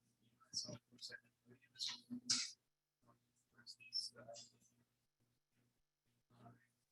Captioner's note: people chattering indistinctly continues